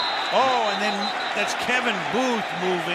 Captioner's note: whistle